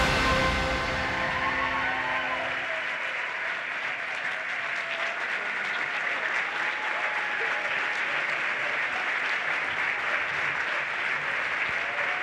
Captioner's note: applause and cheering